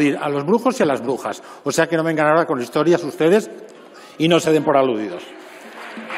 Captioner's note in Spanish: Rumores.-Aplausos